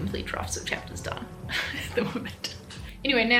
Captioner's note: chuckles